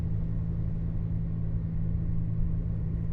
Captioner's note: vehicle on the road